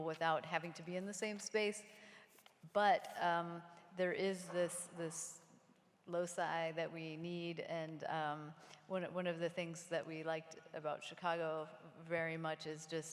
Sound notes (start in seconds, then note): none